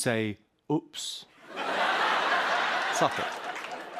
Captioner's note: laughter